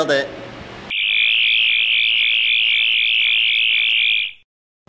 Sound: sonic screwdriver buzzing

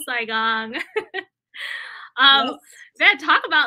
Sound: laughter

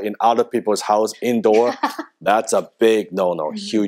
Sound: laughing

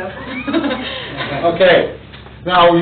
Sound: laughs

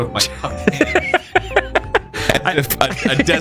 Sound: laughing

